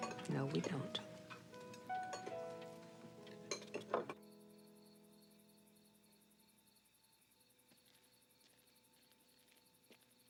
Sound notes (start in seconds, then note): 1.7 emotional music; 4.5 crickets chirping